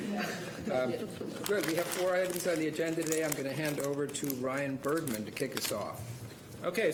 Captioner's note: laughter